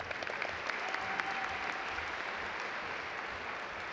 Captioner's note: audience applaud